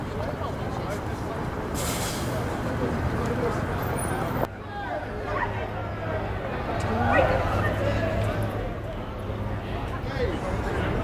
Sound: crowd chatters

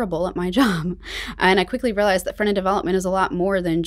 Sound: chuckles

